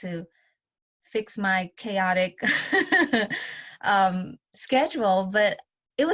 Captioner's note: laughs